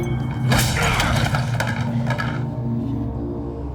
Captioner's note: grunts